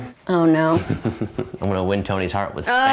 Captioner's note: chuckles